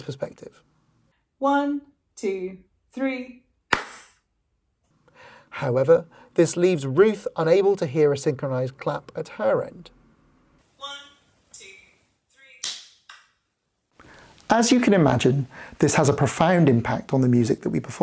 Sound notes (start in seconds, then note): 3.7 clap; 13.0 clap...clap